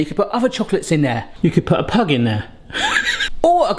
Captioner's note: laughs